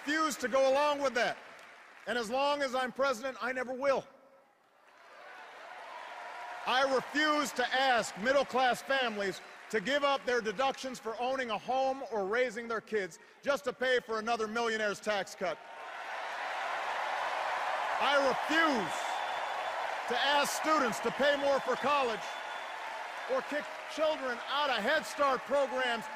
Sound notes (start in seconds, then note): 4.8 cheers; 16.4 cheers and applause